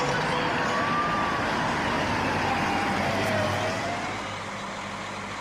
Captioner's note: siren wailing